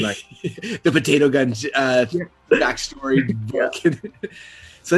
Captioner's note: laughs